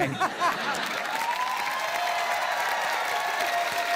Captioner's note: cheering, applause